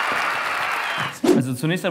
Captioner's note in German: woosh